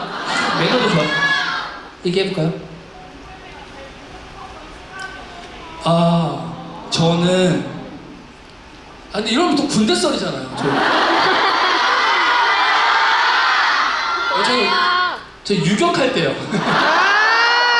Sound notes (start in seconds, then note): 16.4 chuckles